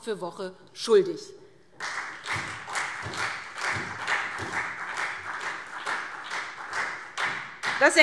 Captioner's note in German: Beifall SPD und vereinzelt Freie Demokraten